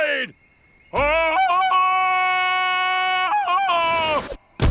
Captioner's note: ululating